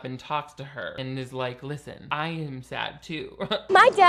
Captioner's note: laughs